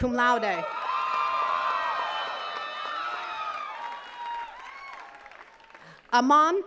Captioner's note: attendees cheering and clapping